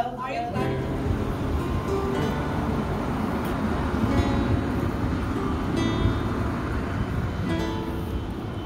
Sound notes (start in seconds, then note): 2.4 wind whooshing; 5.0 soft music